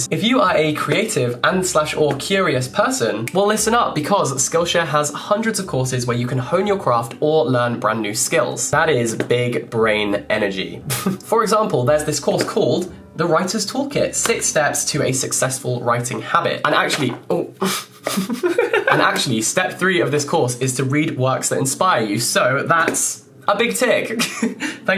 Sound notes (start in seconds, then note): 10.7 laughs; 17.6 laughs